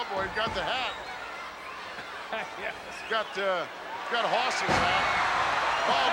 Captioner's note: laughs